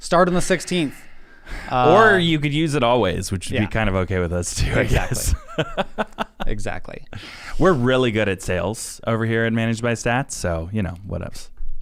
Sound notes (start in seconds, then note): 4.6 laughing